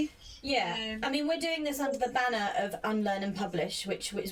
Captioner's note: none